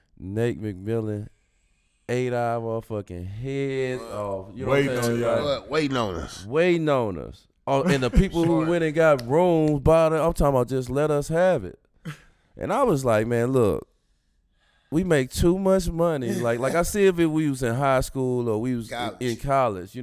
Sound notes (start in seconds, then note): 7.8 murmurs